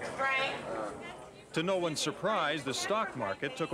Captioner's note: indistinct chatter